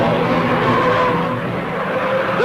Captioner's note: car engine revving; tires screeching